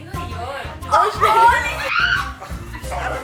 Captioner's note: screeches